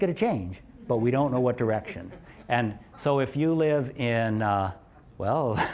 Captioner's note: laugh